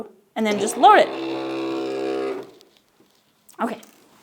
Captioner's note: machine whirs